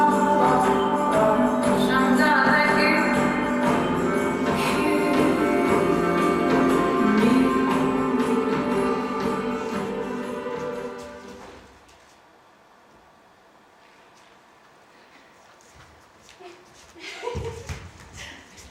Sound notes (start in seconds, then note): 10.8 music fades; 16.9 laughter